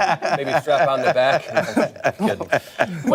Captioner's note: laughter